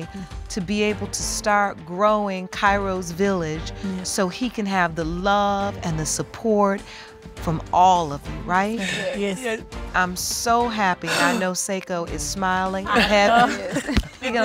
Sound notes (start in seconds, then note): 11.0 sighs